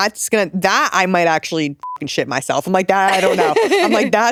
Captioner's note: beep